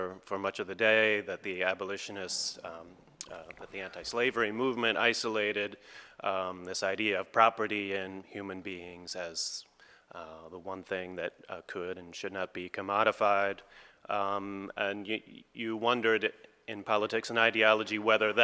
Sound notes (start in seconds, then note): none